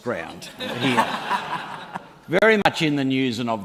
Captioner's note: laughter